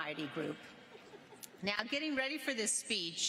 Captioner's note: laughter